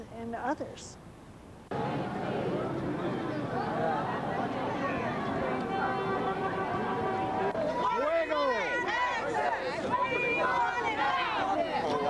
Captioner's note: a crowd of people with disabilities calling together